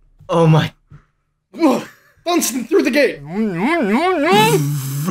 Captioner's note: muffled 'no's